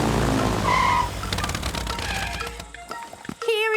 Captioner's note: tires screeching